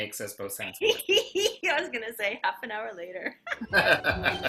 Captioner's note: laughs